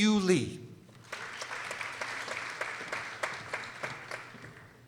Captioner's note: people applauding